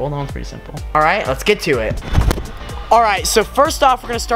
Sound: none

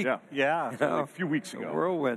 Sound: chuckles

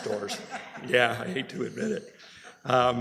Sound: laughter

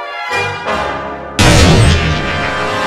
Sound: dramatic music; gunshot

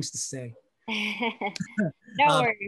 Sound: laughing

